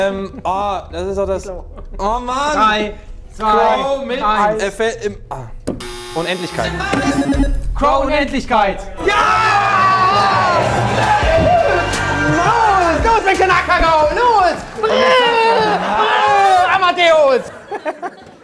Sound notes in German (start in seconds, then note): 9.2 Jubel